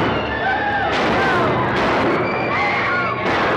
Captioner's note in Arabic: صوت طلقات نارية; موسيقى درامية; الرجال يصرخون